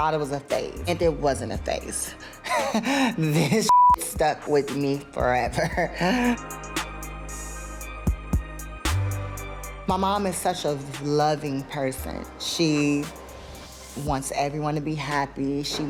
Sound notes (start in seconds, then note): 2.5 laughs; 3.7 beep